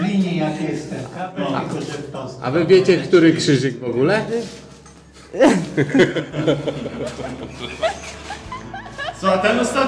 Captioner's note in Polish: śmiech